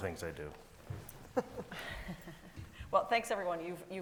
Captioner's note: panelist chuckling